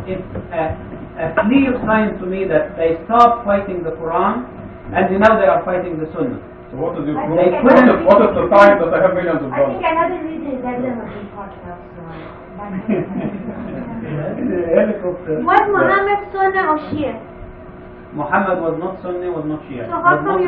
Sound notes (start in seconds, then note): 12.6 laughter